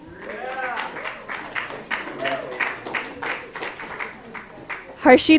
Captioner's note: applause